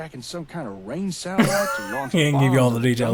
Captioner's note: laughing